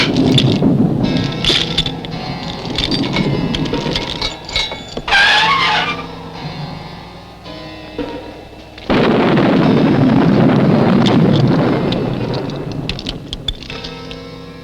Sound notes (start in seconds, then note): 0.1 metal clanking; 5.2 creaking; 8.9 thunder rumbling